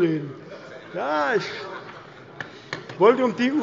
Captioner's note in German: Allgemeine Heiterkeit